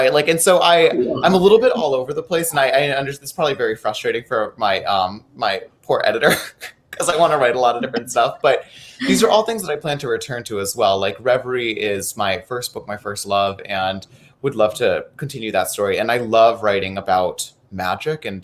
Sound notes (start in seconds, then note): 7.2 laughing